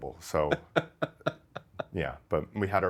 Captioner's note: laughing